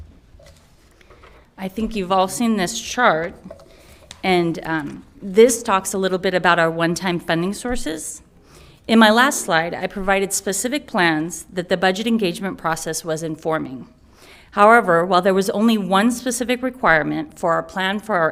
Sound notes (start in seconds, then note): none